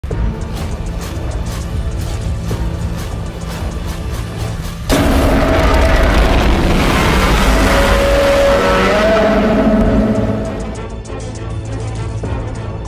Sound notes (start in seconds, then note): 4.9 Godzilla Minus One roars